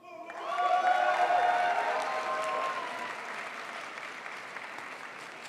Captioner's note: crowd applauds